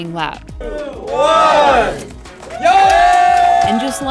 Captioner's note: crowd cheering; crowd